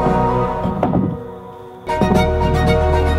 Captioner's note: wood clunking